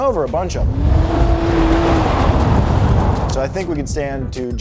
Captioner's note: car engine revving